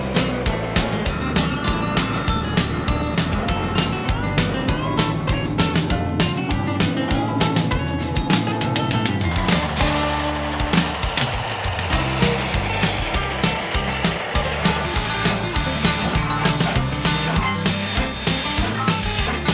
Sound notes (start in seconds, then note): 3.9 train chugging